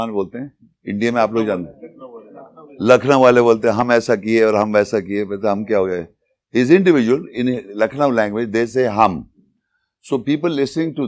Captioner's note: speaking in Urdu; speaking in Urdu